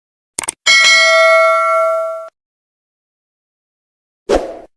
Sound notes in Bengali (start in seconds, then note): 0.6 ঘণ্টা